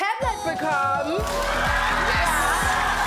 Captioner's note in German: Jubel